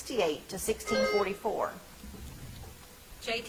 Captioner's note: bell ringing